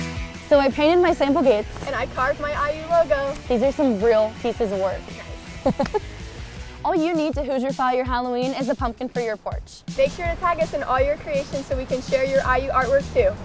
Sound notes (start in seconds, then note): 5.4 laugh